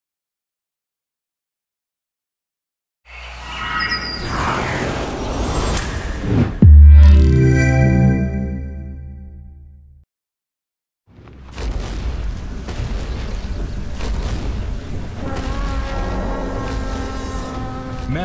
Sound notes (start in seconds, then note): 11.2 thundering footsteps; 15.3 trumpets